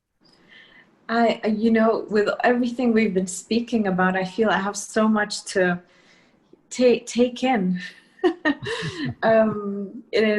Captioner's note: laughter